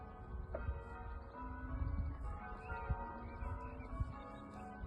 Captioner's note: distant church bells